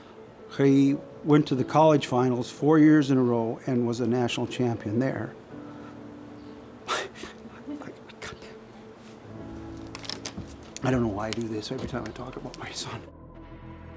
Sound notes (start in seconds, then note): 7.5 chokes up; 13.7 suspenseful music